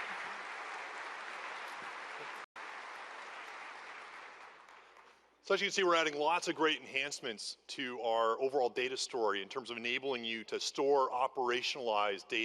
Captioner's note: applause